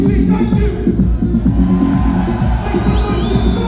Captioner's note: crowd cheers